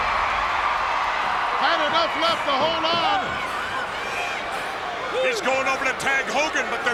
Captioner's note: audience cheering